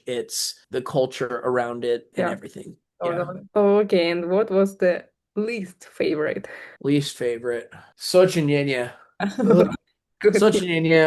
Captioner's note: russian